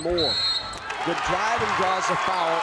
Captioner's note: whistle blows; crowd cheering